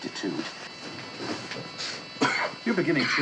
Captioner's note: coughing